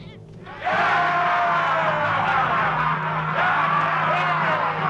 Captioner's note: dramatic music; chieftains cheering